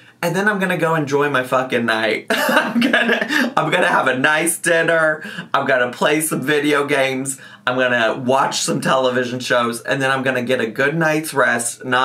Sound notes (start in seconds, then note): 2.3 laughs